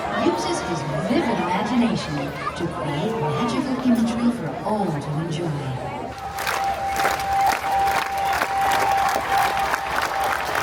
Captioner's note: applause